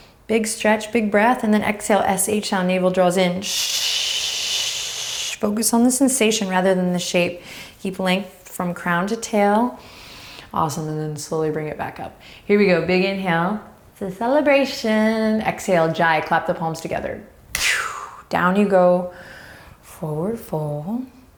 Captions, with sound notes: Big stretch, big breath. Then exhale, S-H sound. Navels draws in. (shushing) Focus on the sensation rather than the shape. Keep length from crown to tail. Awesome. Then slowly bring it back up. Here we go, big inhale. It's a celebration. Exhale, Ujjayi, clap the palms together. (exhaling) Down you go. Forward Fold.